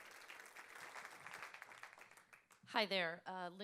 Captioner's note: applause